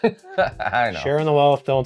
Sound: laughs

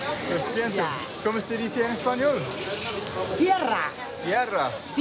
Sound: Spanish

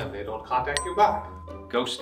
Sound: bell dings

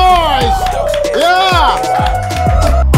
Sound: sound of cheering

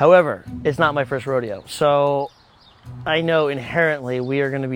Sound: none

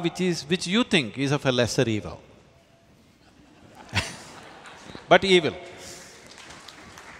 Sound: laughter

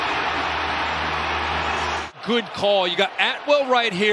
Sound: applause

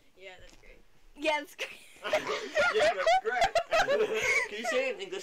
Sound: laughter

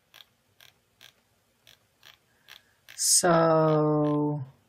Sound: mouse scrolls

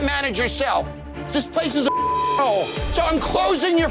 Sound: beep

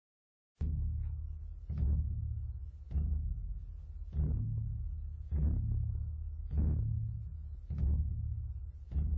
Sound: heartbeat

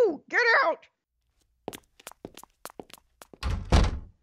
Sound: footsteps and door closing

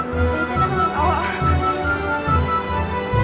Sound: stammers

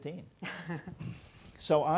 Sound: soft laughter

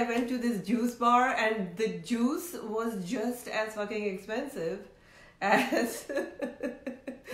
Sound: laughs

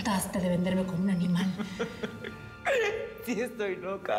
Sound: risas

